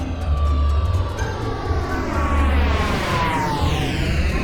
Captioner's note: airplane engine roaring